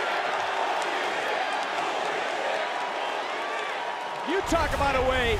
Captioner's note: crowd chants